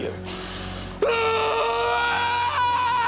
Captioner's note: screaming